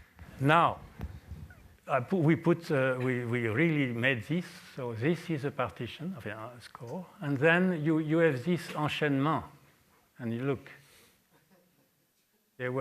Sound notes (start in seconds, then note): 9.4 french